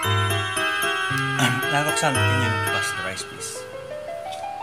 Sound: dad clears throat

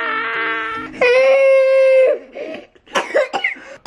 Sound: crying

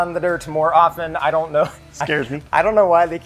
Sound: laughs

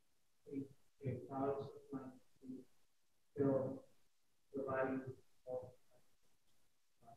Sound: speaking faintly

